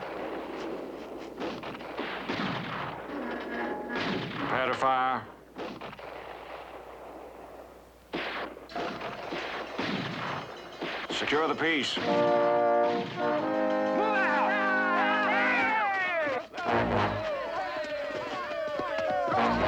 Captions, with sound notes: Prepare to fire. Secure the piece. - Move out! - [cheering] [cheering]